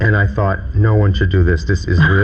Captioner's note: laughing